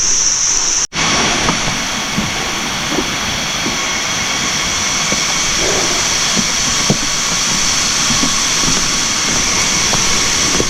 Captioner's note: sound of loud insects, maybe crickets?